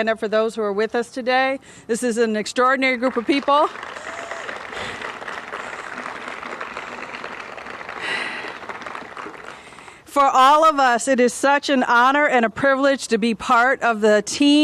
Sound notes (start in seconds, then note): 4.1 applause